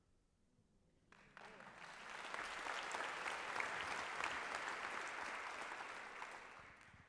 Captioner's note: applause